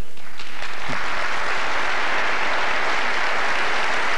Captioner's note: applause